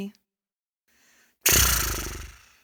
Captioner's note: bilabial trill